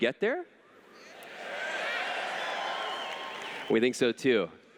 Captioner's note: cheers